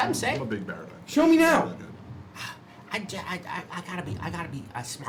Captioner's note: sighs